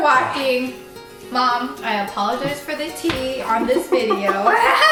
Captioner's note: both laugh